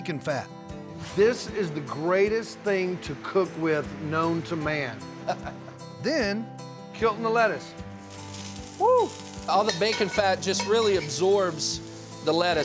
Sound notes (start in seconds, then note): 5.2 chuckles; 7.8 sizzling sound